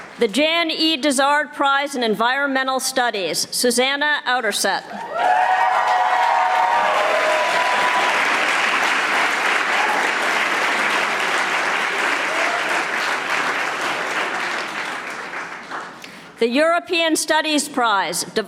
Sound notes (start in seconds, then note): 5.1 audience applauding